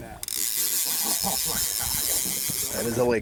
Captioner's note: fish rod rattles